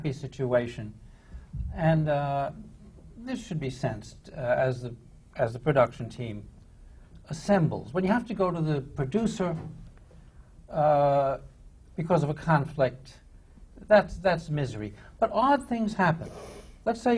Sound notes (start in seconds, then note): none